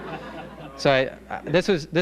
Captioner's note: laughter